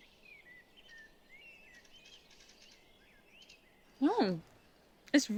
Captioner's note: birds chirping